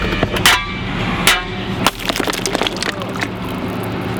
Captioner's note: metal banging